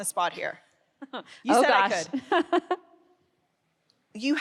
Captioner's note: laughs